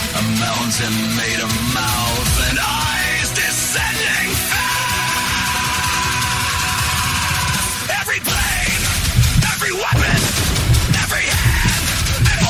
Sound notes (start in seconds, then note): 6.3 explosions